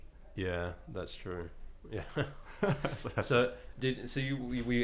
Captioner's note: laughing